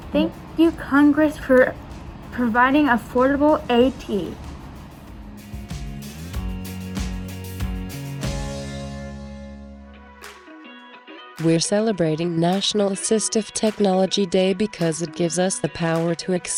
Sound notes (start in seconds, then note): 9.6 upbeat music; 11.5 computer Voice